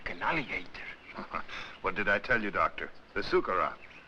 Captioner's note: chuckles